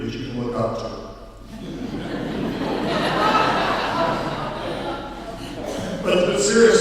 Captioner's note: laughing